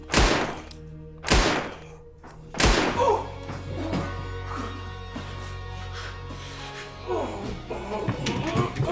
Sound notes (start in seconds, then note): 1.2 gunshots firing; 2.5 gunshot fires; 2.7 robber yelps; 3.7 robber panting and grunting